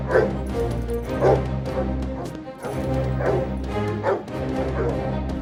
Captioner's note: dogs barking